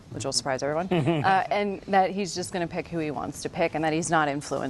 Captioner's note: laughter